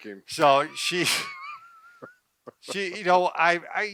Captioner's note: laughing